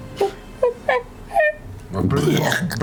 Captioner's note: vomiting; monkey cooing